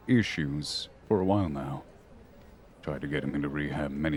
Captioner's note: none